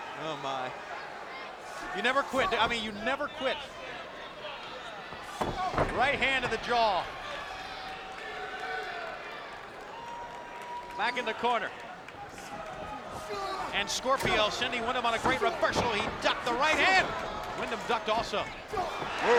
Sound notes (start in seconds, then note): 5.2 wrestlers stomp; 7.8 spectators cheering